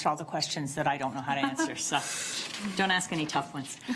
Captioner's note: laughs